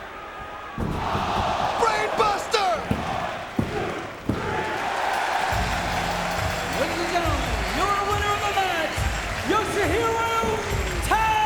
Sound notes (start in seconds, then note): 4.8 audience cheering